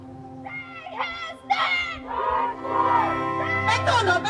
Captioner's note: shouting; non-english